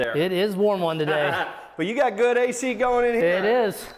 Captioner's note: laughs